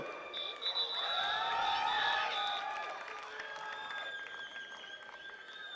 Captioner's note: attendees cheering and clapping